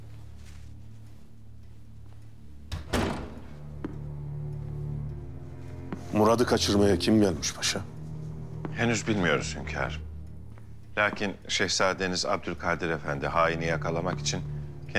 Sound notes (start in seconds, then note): 2.7 the door closing sound